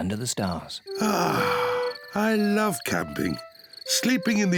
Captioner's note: sighs